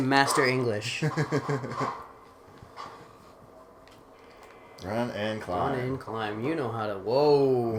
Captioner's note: laughing